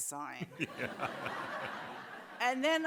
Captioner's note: audience laughs